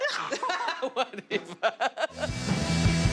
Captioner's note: laughs